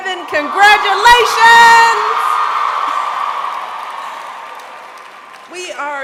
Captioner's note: applause